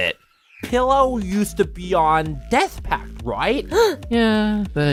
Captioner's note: gasp